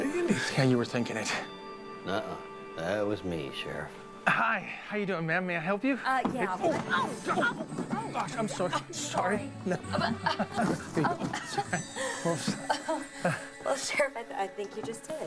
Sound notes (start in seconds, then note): 9.8 laughing